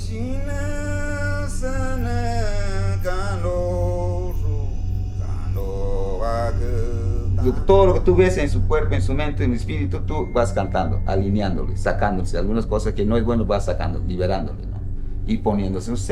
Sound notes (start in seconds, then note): 0.1 shaman sings in foreign language; 7.5 shaman speaks in foreign language